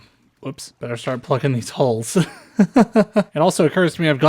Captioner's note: laughter